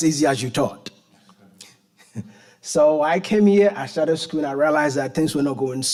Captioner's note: chuckles